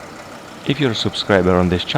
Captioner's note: engine revving